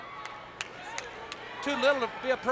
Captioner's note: hands clapping